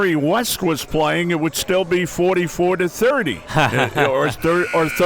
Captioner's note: laughing; buzzer ringing